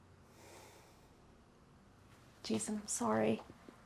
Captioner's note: sighing